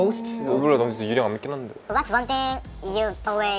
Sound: speaking Korean

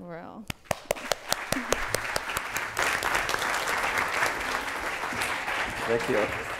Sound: applause

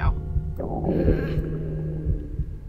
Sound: thundering belly

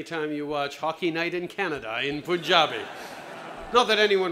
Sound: laughter

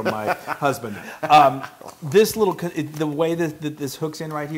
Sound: laugh

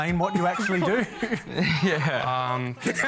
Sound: laughter

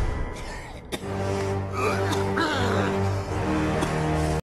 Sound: coughing / music; coughing

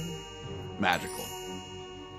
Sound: magical chime

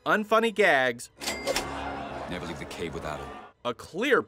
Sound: cash register sound effect

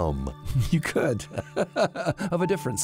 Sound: laughs

